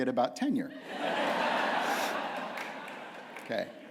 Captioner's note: laughter